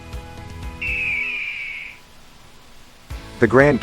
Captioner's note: eagle Cry